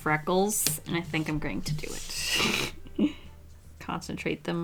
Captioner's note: laughs